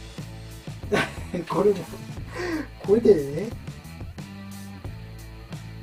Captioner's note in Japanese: 笑い